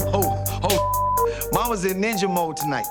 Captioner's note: beep